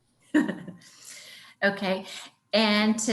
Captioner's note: laughs